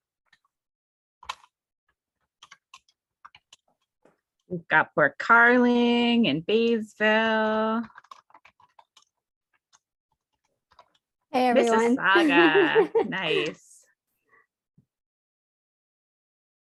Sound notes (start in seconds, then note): 0.0 keyboard clicks; 7.9 keyboard clicks; 11.7 chuckles